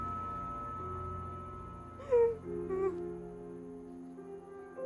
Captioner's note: weeps